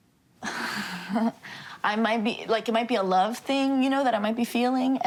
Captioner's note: chuckles